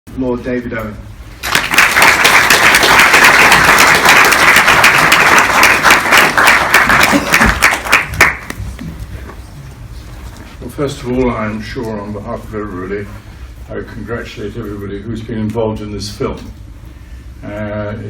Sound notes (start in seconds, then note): 4.0 applause